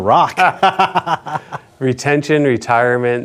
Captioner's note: laughing